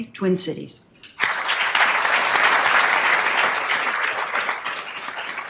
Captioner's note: attendees applauding